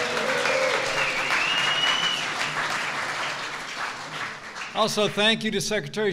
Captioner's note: applause